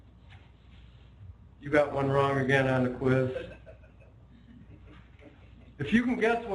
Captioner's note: laughter